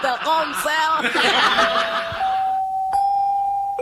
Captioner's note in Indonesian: tertawa